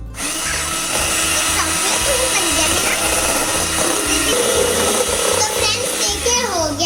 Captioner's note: blender noise